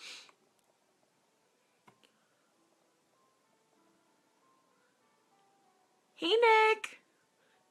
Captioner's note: sniffs